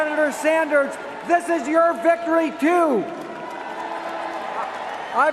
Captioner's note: cheers and applause